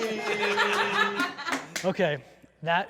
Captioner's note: laughter